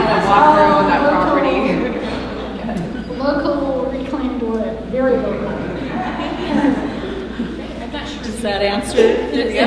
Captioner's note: laughter